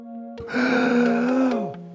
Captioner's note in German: Keuchen